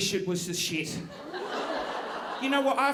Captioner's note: audience laughing